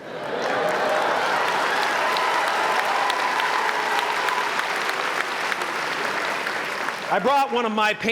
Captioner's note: applause